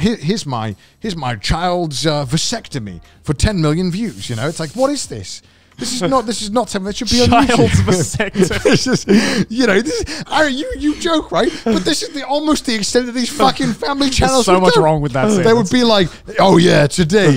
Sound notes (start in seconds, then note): 9.8 laughs